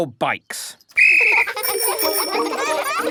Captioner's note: blows whistle; giggling and ringing bells